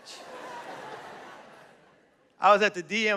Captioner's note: laughter